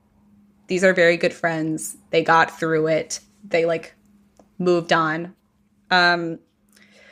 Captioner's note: deep breath